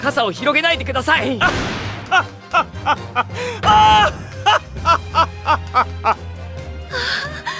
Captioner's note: laughs